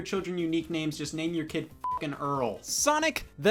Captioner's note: beep